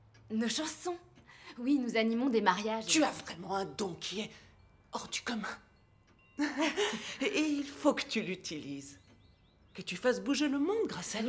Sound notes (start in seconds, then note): 6.3 chuckles